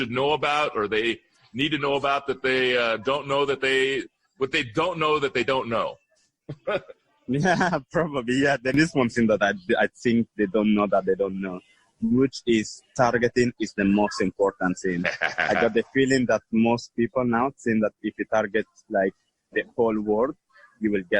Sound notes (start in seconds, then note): 7.1 chuckle; 15.0 laughter